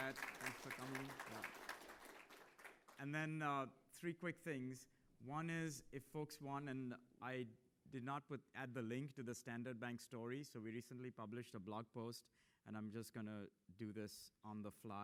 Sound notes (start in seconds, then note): 0.0 applause